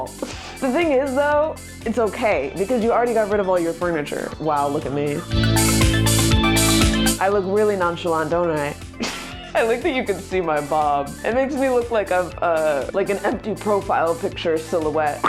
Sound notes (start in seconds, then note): 5.3 electronic music; 9.1 laughs